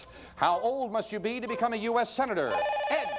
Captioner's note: bell rings